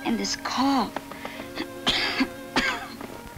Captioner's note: coughs